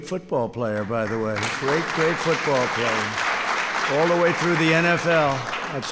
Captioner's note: applause